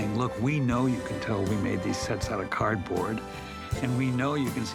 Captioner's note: none